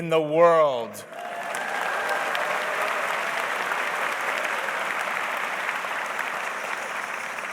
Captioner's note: audience cheers; audience applauds